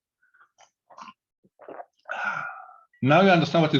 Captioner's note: gulping and sighing